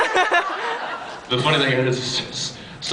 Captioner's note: laughs